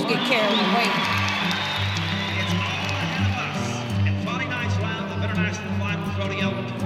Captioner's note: crowd cheers